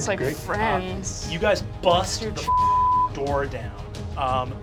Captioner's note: beep